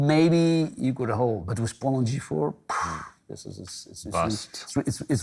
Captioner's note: scoffs